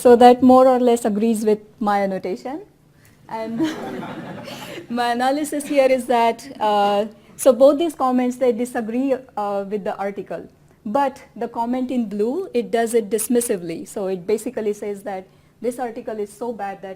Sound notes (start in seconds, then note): 3.5 laughter